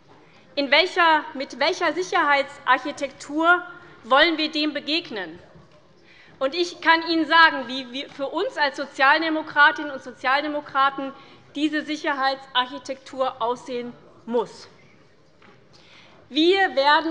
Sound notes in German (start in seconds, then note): none